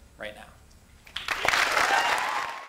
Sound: audience applauds

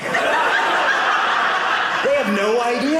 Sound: audience laughing

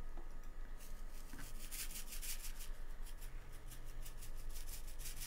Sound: sprinkles shaking

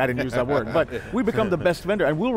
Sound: laughs

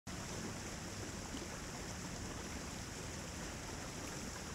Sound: water gushing

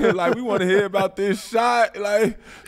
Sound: Metta laughs

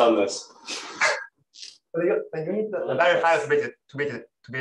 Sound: laughs

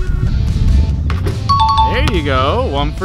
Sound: ding

